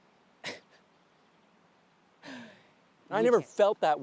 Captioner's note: Alice chuckles